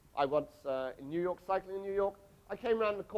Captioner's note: none